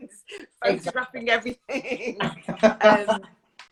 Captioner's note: laughs